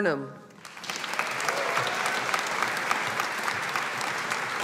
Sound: audience applauding

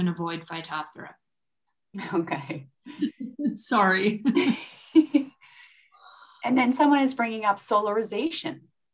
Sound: chuckles

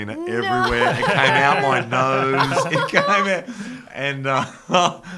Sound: laughs

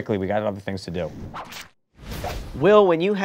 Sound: whooshing

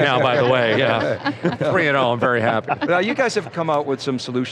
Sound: all laugh

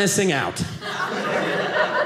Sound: audience laughing

